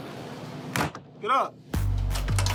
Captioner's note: thud